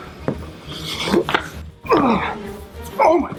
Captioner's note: grunting